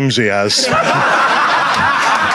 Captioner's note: Sidemen laugh; audience laughs